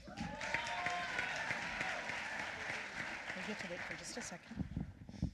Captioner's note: applause